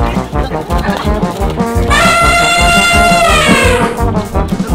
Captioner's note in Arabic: صوت الفيل